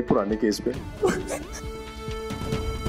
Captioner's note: Ashfaq cries